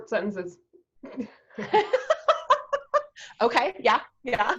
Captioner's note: laughs